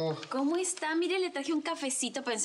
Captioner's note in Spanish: none